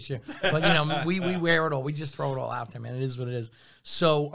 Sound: laughs

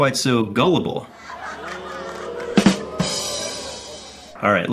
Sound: crowd laughs and boo's

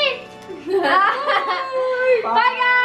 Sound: laughter

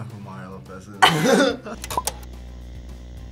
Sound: laughs

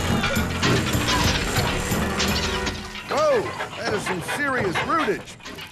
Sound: motor struggling

